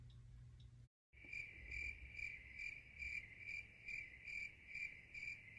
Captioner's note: crickets chirp